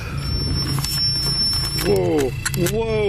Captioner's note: beeping